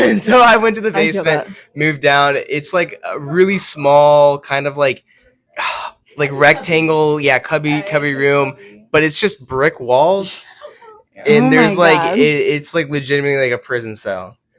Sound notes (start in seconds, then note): 5.6 sighs; 11.3 laughs